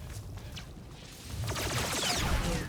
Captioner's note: gunshots